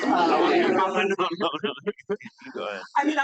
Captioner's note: audience laughs